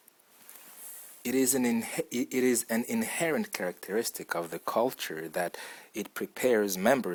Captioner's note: reader's normal voice